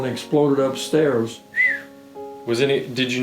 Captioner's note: whistling